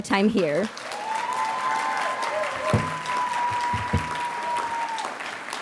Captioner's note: audience cheering and applauding